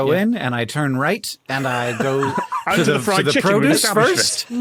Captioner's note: wheezes